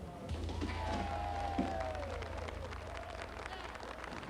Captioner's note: crowd cheering